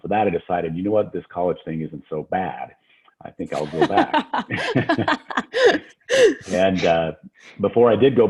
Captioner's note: laughs